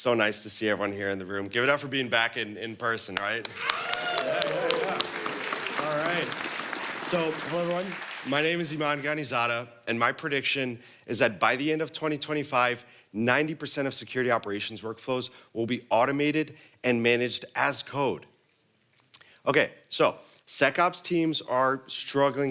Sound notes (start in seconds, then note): 7.4 applause